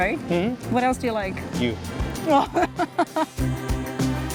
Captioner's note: laughs